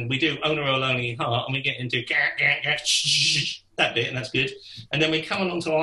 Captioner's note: mimics drums